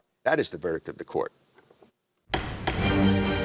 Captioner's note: gavel bangs